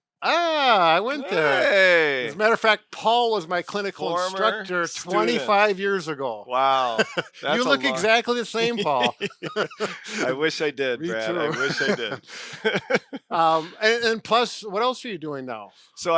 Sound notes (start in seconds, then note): 6.7 laughing